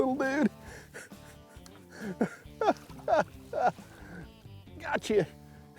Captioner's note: chuckles